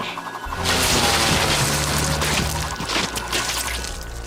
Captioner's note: blood sloshing